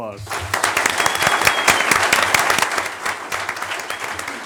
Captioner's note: audience applauds